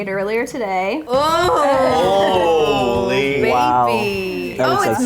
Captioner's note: all exclaim